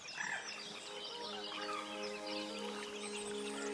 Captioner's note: animated birdsong